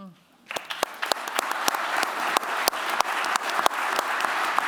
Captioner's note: applause